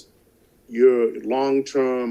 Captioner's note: none